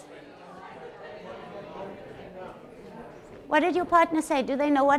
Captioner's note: audience chatters